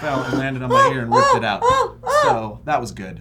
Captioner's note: terrified sounds